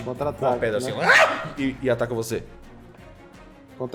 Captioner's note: aah